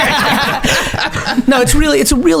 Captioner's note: laughs